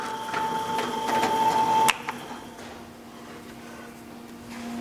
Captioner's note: clack, then the whirring stops